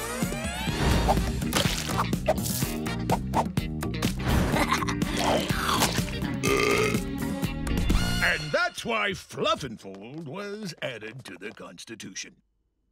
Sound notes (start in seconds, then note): 4.6 laughs; 6.4 burps